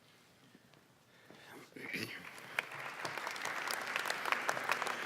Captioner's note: applause